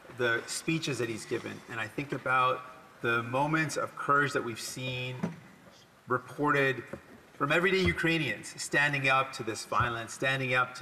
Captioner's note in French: voix de l'interprète